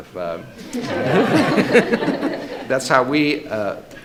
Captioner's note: laughter